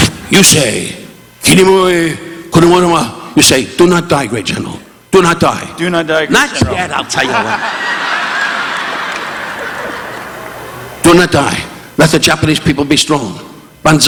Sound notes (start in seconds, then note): 0.8 Don speaking in Japanese; 7.0 participants laughing; 7.0 audience laughing